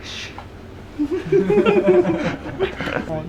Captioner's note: laughter